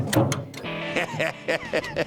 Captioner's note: laughs